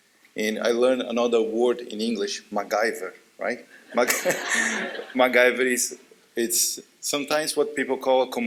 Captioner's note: laughter